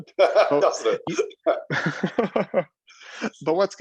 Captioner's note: laughing